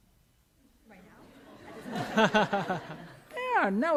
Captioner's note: laughter